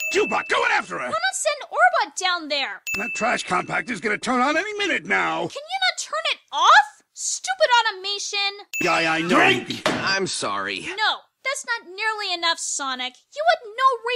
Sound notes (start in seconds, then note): 9.8 thud